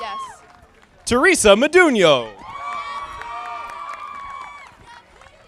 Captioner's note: audience applauding